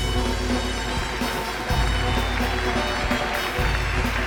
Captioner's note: applause